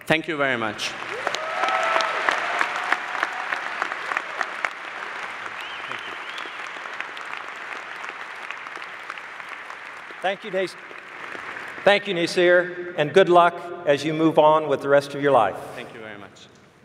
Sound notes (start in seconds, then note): 1.5 applause